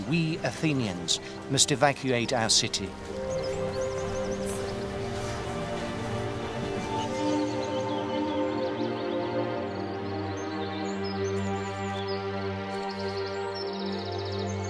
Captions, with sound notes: we Athenians must evacuate our city. (somber orchestral music) (birds chirping)